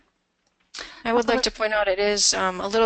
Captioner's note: voiceover